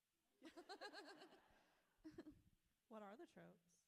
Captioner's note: author laughs